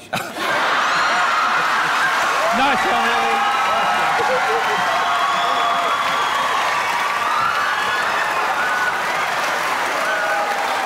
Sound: even More Laughter

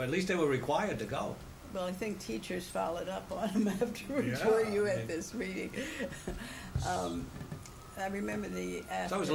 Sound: laughs

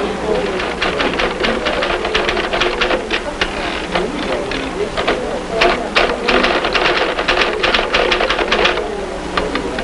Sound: typewriter clacking

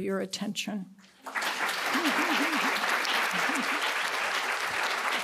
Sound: attendees applauding

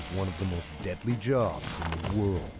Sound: voiceover

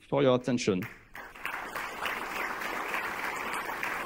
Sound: crowd clapping

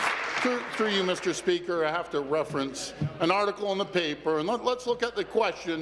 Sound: applause

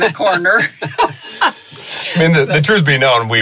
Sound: laughs

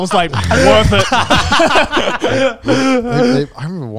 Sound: everyone laughs

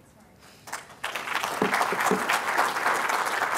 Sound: applause

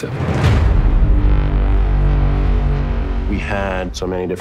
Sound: ship engines noise

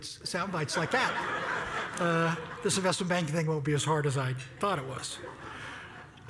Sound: laugh

